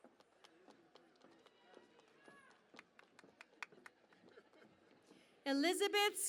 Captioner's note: cheering and Applause